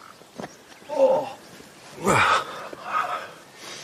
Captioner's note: sighs in pain